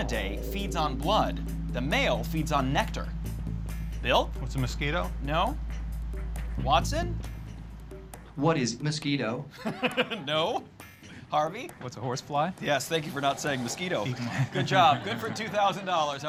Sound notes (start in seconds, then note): 9.6 laughing